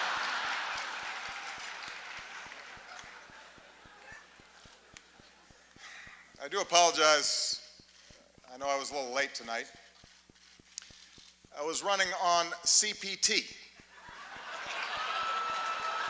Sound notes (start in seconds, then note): 0.0 laughter, applause